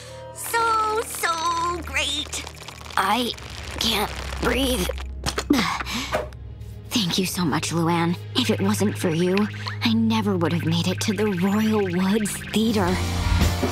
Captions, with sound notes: So, so great. I can't breathe. [gasping] Thank you so much, Luan. If it wasn't for you, I never would have made it to the Royal Woods Theater.